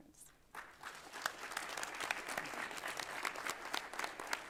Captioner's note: audience applause